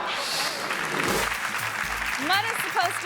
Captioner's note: audience laughing; graphic whooshes; hands clapping